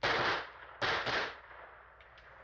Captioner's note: gunshots